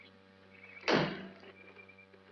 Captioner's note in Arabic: الباب يُغلق